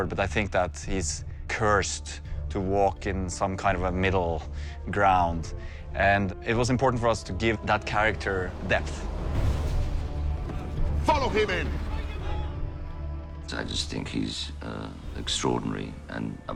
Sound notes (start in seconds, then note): none